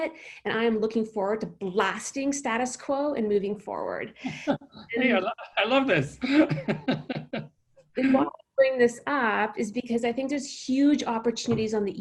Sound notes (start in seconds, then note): 4.2 laughs; 8.8 faintly speaking